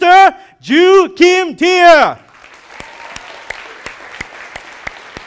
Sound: audience applauding

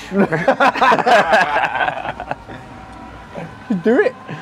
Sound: all laugh

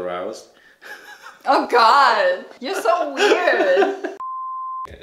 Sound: laughs

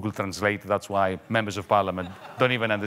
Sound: audience laughing

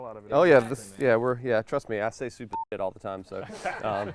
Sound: beep; laughing

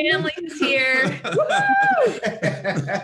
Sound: family laughing

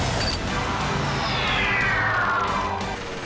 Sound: engine winding down

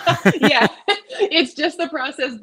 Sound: both laughing

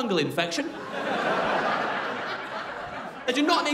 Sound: crowd laughing

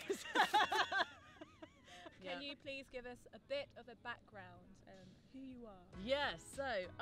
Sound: laugh

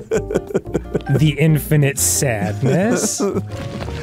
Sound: laughing; laughing

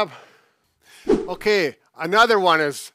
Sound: whooshing sound

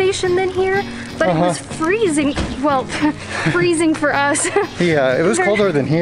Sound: chuckles

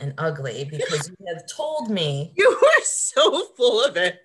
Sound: laughs

